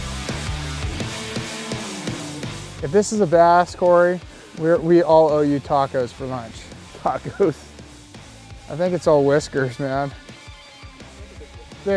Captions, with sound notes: If this is a bass, Cory, we all owe you tacos for lunch. - Tacos. (laughs) - I think it's all whiskers, man.